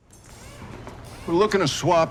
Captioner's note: drill whirring